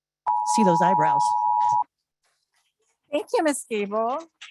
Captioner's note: timer beeping